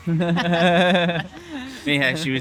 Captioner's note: laughing